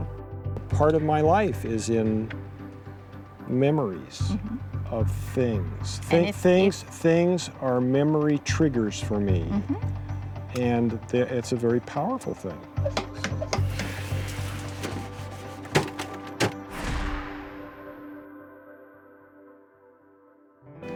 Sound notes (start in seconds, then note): 12.4 tapping; 13.6 water spraying; 16.4 pounding